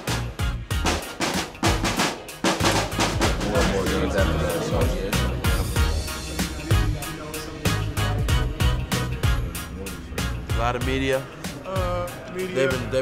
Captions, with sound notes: (snare drum rattling) (locker room chattering) - A lot of media. - Uh, media ...